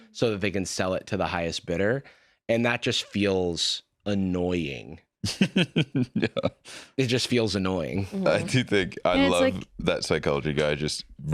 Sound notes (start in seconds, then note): 5.2 laughing